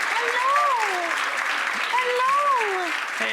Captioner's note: audience applauding